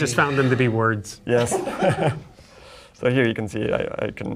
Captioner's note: laughs